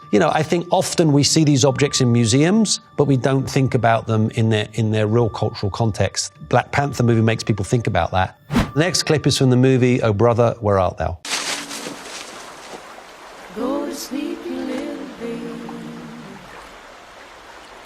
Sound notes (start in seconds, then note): 11.2 leaves rustling; 12.3 water bubbling